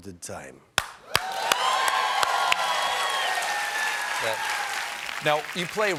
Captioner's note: cheers and applause